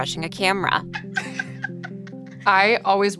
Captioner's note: everyone laughs